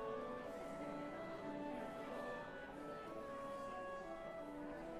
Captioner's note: laughter; chatter